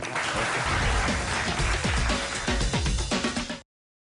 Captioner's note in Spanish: Aplausos